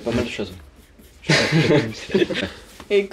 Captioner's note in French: ils rient